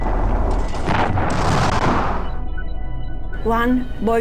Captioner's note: explosions booming